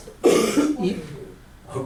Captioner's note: voiceover